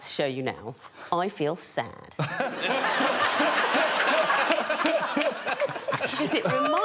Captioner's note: all laughing